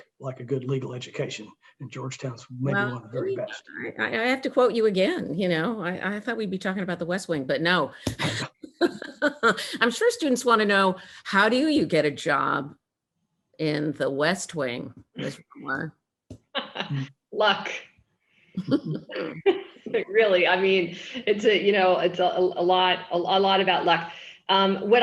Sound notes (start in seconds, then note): 2.5 faintly speaking; 8.2 chuckles; 16.5 laughing; 18.6 both chuckle